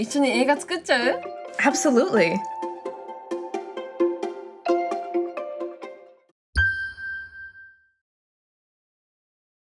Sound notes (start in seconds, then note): 2.5 bright music; 6.6 tone reverberating